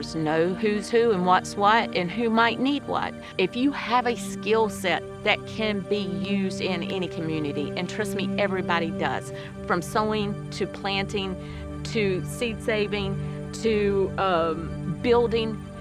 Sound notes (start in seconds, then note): none